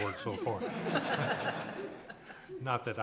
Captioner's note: audience laughing